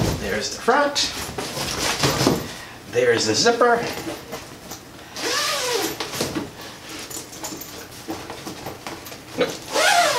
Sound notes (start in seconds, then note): 5.2 zipper sounds